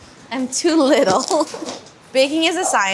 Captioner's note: laughing